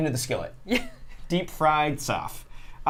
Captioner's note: Safiya laughs